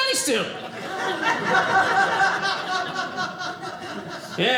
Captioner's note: audience laughing